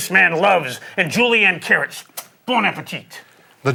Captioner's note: lips smack